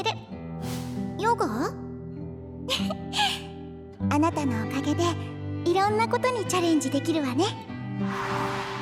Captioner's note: chuckles